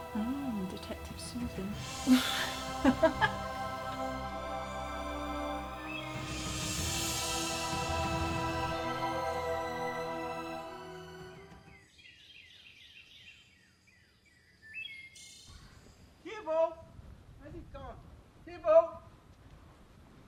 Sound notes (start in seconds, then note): 2.0 laughing; 4.2 dramatic orchestral music; 11.5 birds chirping